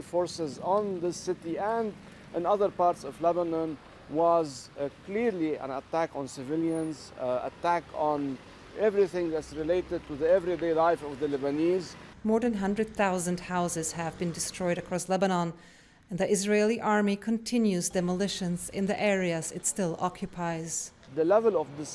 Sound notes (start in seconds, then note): 12.8 voice-over